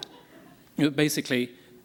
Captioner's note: laughter